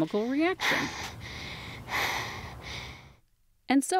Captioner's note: breathing sounds